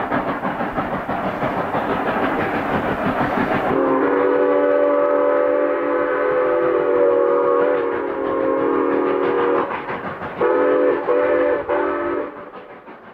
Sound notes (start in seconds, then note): 4.3 whistle